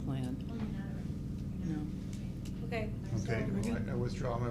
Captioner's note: board members and facilitators mumbling